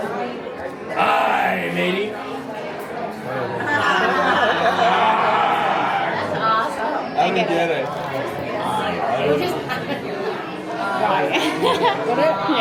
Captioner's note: laughter